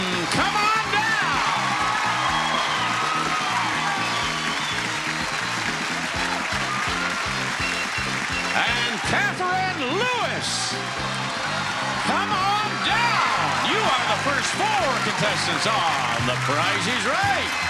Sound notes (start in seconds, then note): 1.3 audience applauding; 1.3 lively music; 17.4 audience applauding; 17.4 upbeat music